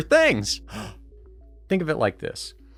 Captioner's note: gasp!